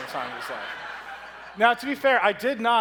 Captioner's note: audience laughs